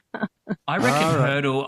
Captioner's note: laughs